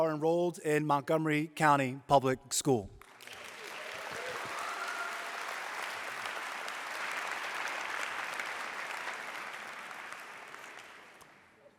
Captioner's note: applause